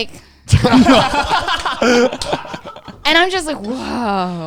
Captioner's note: all laughing